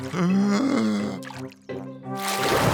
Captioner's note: takes a deep breath